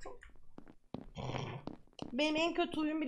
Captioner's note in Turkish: gülme